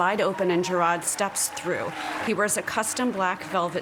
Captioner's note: applause